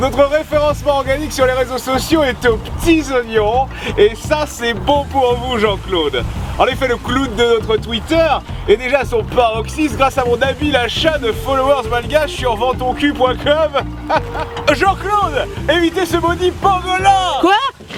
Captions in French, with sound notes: Notre référencement organique sur les réseaux sociaux est aux p'tits oignons Et ça c'est bon pour vous Jean-Claude ! En effet le Cloud de notre Twitter est déjà à son paroxysme Grâce à mon habile achat de followers malgaches sur "VendsTonCul.com" ! [Rires] Jean-Claude ! Évitez ce maudit pangolin ! - Quoi ?!